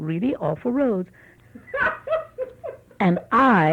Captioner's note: laughs